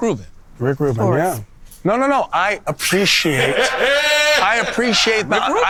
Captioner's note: laughing